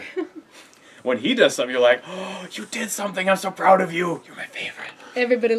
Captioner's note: gasp